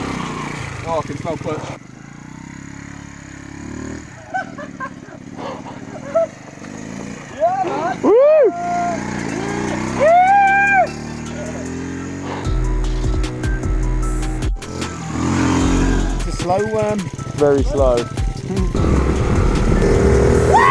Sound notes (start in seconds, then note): 4.1 laughs